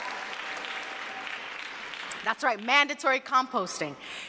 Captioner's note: cheers and applause